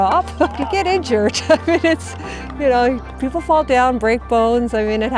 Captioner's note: laughing